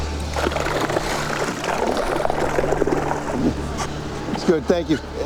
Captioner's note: reeds crackling